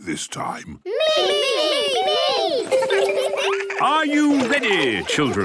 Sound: laughter

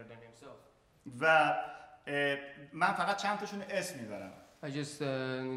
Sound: speaking in farsi

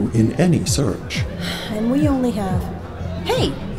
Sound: sigh

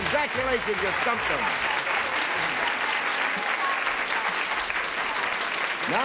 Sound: applause

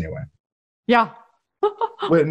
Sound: laughs

